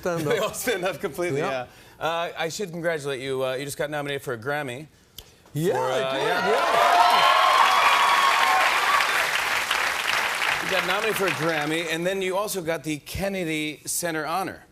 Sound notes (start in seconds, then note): 6.0 cheers and applause